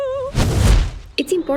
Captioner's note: fire